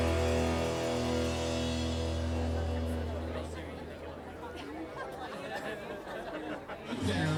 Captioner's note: audeince noise